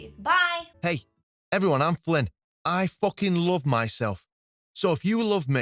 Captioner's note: flippant Male Voice